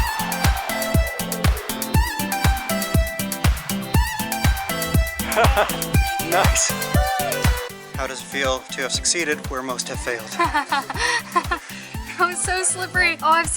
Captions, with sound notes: [Laughter] Nice! How does it feel to have succeeded where most have failed? [Laughter] That was so slippery! Oh I have